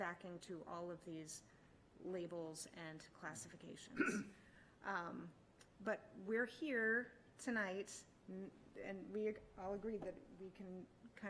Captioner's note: clears throat